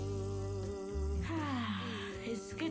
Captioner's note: exhales